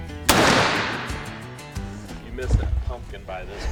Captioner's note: gun firing